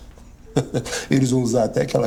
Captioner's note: laughs